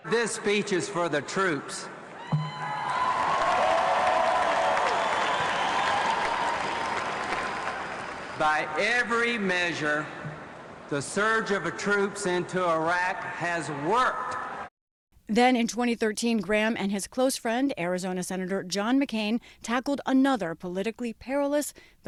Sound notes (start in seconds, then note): 8.4 cheering